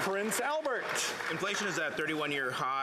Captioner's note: applause